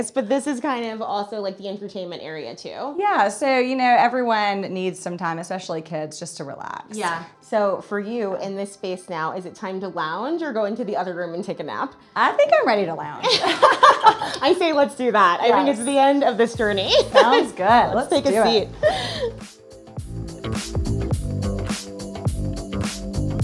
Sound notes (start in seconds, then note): 13.3 all laugh; 20.7 upbeat music